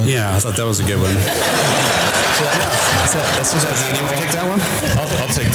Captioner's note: audience laughter and applause